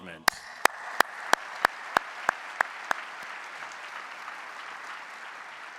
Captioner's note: audience applauding